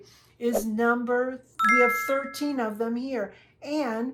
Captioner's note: bells chiming